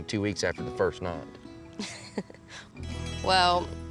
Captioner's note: giggling